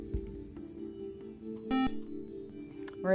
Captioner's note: beep